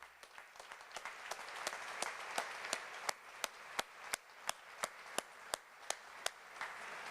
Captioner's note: applause